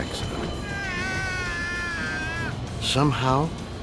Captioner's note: man screaming